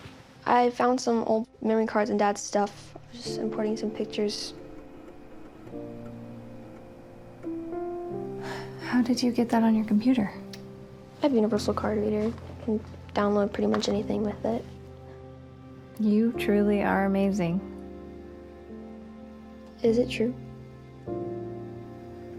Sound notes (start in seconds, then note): 5.2 soft music; 8.3 sighs